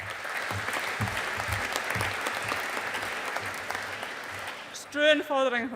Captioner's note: audience applauding